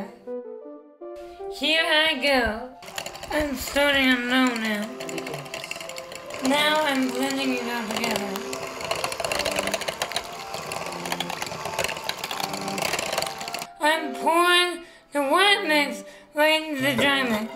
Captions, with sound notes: Here I go. I'm starting on low now. Now I'm blending it all together. [BLENDING] I'm pouring the wet mix right into the dry mix.